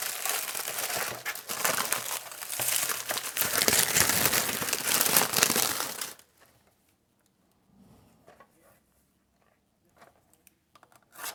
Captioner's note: crinkly sounds of package opening